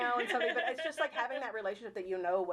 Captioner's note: laughing